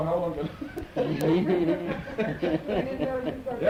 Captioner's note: laughter